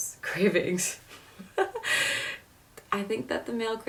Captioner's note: laughing